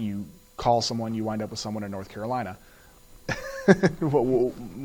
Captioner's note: laughs